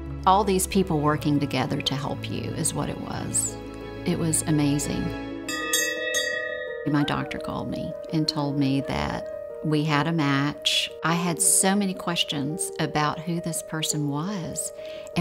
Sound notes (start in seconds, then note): 5.4 bell ringing